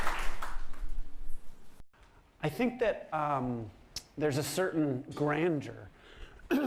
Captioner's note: coughs